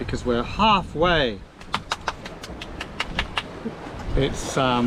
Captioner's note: applause